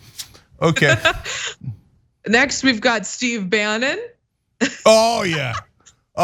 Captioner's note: laugh